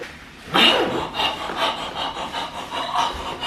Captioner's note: pants